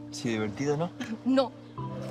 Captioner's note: Noah speaking in foreign language; Nick speaking in foreign language